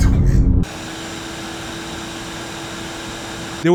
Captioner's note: vacuum cleaner whirring